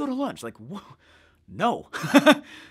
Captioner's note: laughs